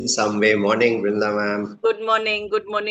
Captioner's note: Hindi